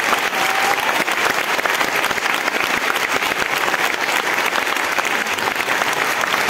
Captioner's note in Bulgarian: аплодисменти